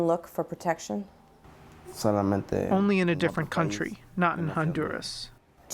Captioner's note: through translator